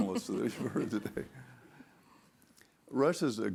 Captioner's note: laughing; audience laughing